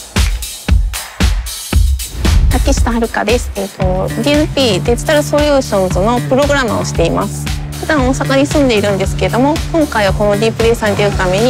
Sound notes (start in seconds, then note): 0.1 laid back electronic music; 2.7 speaking Japanese